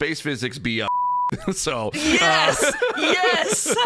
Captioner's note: beeeep